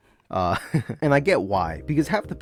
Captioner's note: giggles in shame